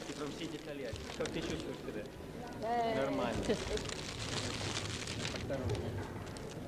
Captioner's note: russian